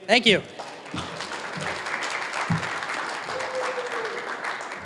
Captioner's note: applause